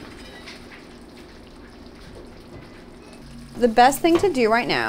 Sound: food sizzling

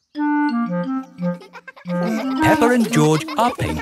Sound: children laughing

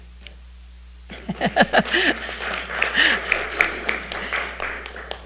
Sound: audience applauds

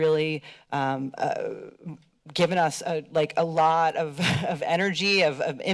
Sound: laughs

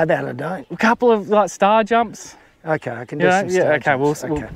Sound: laughing

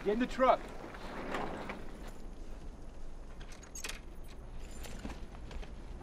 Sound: none

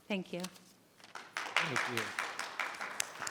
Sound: audience applauds

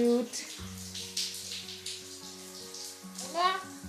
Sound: shower water flowing

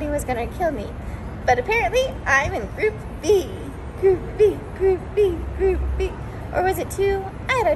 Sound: chanting

